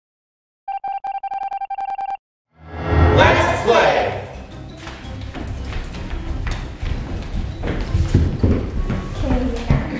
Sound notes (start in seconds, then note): 0.8 beeping; 4.3 heavy footsteps